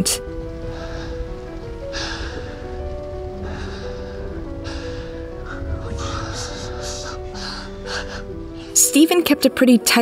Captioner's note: Steven breathing hard